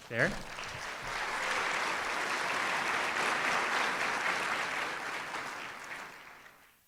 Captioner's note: applause